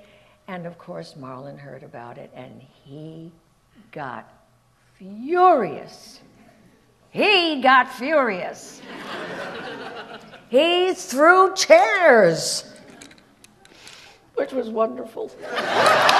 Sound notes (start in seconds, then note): 8.8 audience laughs; 15.4 audience laughs